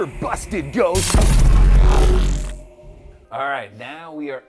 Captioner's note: electricity buzzing